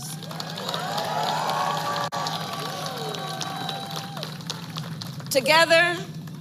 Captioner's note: applause